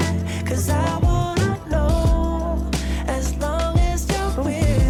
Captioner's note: sigh